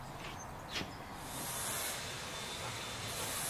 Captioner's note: soft whirring